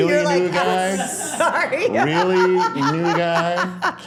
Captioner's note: laughs